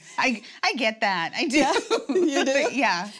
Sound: laughs

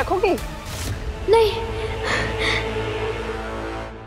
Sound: gasps

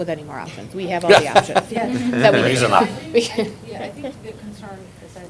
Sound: laughter

